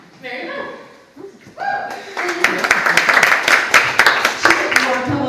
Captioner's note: audience applauds